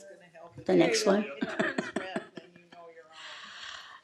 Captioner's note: laughter